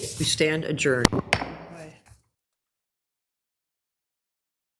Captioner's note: mallet whacks